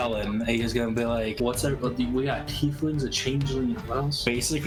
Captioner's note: stammering under the breath talk